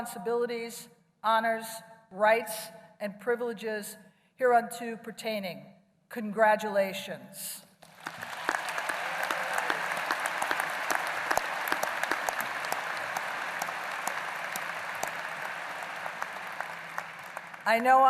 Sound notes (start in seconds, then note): 8.1 applause